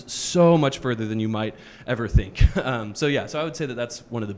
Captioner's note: chuckles